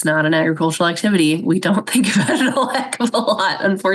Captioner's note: laughs